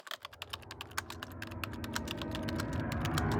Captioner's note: typing